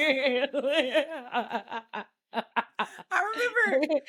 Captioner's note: laughing